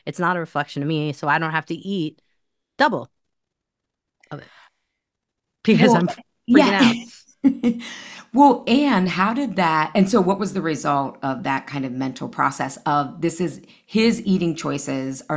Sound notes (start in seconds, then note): 6.6 laughs